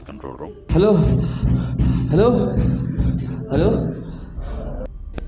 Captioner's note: ghostly & Scared Screams Hearing in the Background